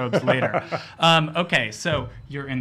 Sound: laughs

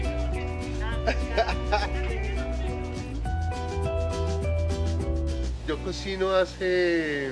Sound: speaking Spanish

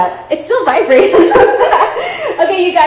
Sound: both laughing

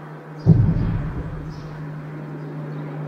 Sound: distant traffic sounds; scary echoey boom

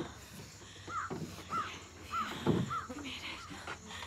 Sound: crow calls

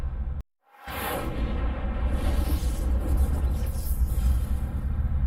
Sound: electrical fizzling

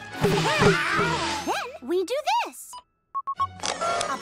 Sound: beeping; beeps

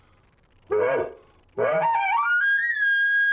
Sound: elk call

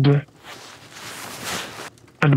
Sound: fabric rustles

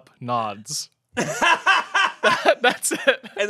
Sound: laughs

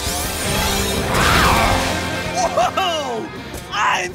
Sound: roaring

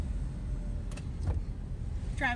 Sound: car creaks

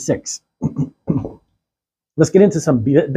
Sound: clears throat

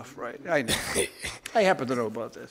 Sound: laughs

